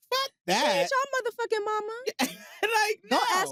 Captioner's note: laughs